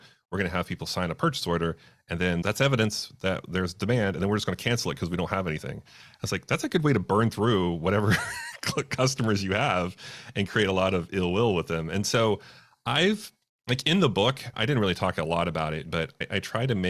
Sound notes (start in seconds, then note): 8.1 laughs